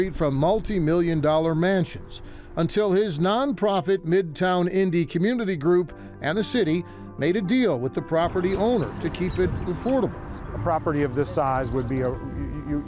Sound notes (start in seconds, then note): 8.2 birds chirp